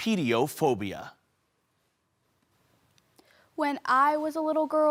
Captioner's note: silent